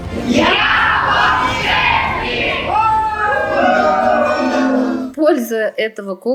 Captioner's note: shouting